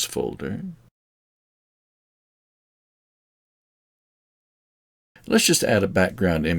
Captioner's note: silence